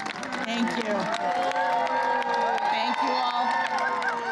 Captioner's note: applause